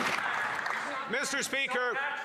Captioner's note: applause